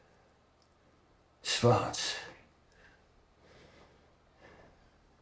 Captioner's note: man speaking German